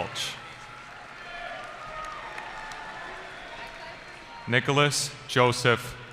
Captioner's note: cheering